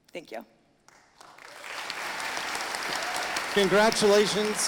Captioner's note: audience applauding